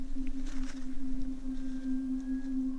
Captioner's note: rustles